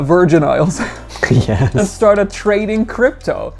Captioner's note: laughs